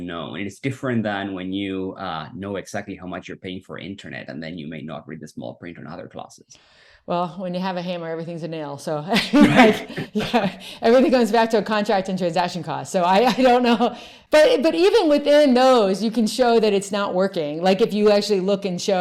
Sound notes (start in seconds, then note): 9.2 both laugh